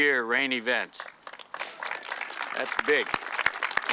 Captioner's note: audience clapping